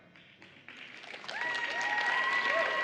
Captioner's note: applause